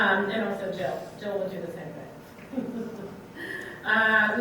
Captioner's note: laughs